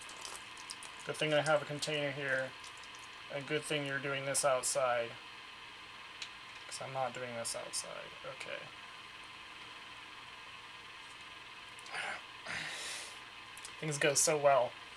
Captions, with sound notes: good thing i have a container here good thing you're doing this outside cause im not doing this outside >_> ok *sigh* *nose exhale* things go so well